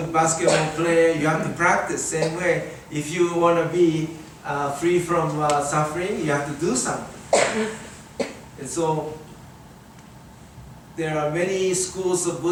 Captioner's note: audience coughs